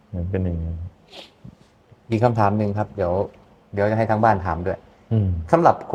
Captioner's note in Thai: เสียงสูดหายใจ